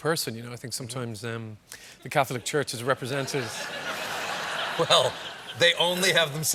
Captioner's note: laughter